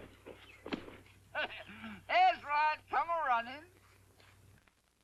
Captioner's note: chuckles